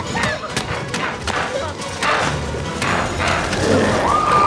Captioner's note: dramatic music continues; Chalee shrieks